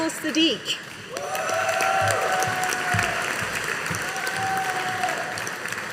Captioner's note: audience applauding